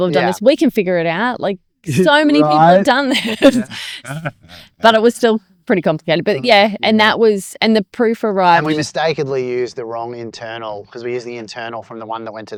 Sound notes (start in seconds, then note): 1.8 laughs